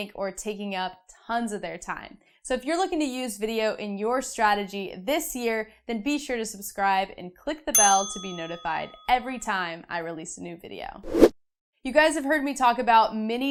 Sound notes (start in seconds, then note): 7.7 bell rings; 11.0 air whooshing